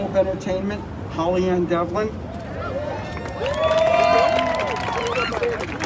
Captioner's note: crowd cheers